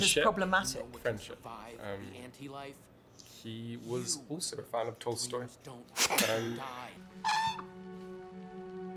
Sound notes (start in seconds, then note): 5.9 laughs; 7.2 bird chirps